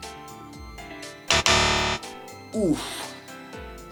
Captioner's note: incorrect buzzer